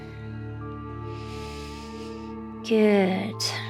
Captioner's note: calm music; inhales